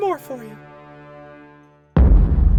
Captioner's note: boom